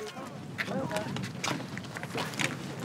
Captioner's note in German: Leises Stimmengewirr